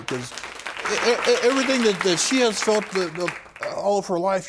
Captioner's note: stammering